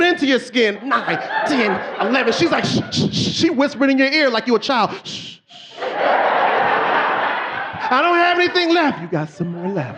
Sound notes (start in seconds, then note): 4.0 shushing; 6.9 shushing; 7.5 audience laughing